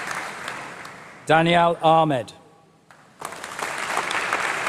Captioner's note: applause